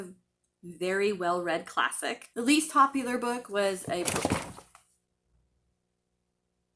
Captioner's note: book falls off shelf